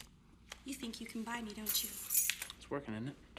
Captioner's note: keys jangling